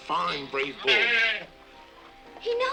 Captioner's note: bull calf bellows